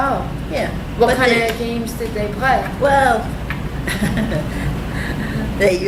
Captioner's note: laughs